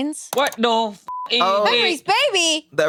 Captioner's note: beep